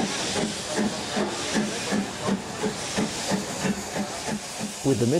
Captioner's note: train passes